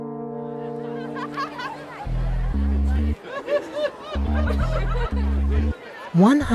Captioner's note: laughing